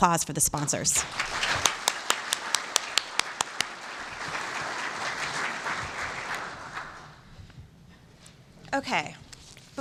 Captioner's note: applause